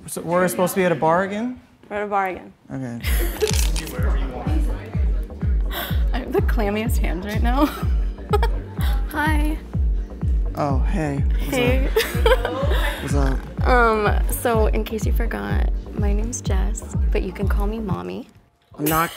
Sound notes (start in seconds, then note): 8.2 giggles